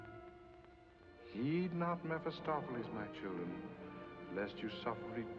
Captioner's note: reverend's voice